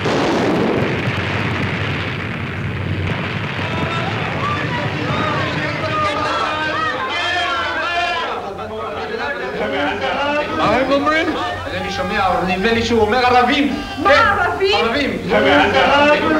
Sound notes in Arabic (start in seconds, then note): 0.0 إطلاق نار; 4.4 أشخاص يصرخون بلغة أجنبية; 11.4 رجل وامرأة يتحدثان بلغة أجنبية